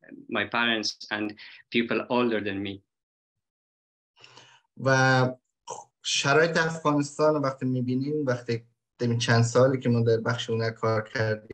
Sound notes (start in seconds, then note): 4.8 speaks in Dari